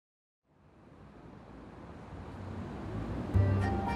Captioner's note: engines humming; upbeat music